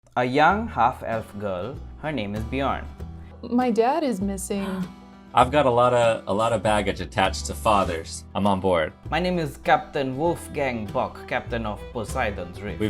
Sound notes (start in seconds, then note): 4.6 poppy gasps